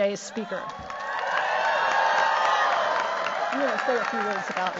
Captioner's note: cheers, applause